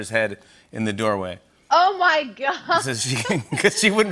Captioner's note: both laugh